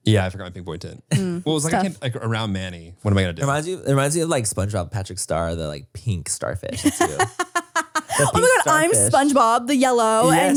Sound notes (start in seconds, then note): 6.7 laughs